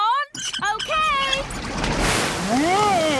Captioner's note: wheel squeaking